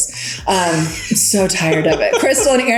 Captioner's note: laughing